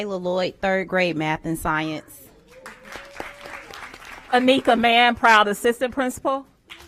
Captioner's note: applause